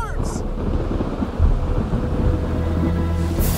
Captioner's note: thunder rumbles